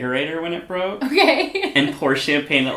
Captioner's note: laughs